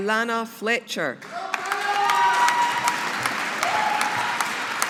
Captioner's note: audience applauding